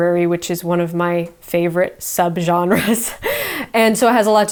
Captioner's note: chuckles